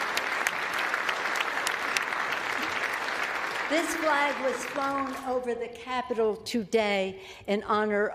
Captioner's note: applause